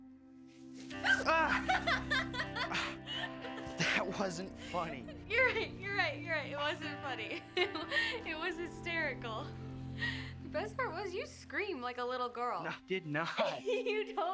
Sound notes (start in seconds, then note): 0.9 Grace laughing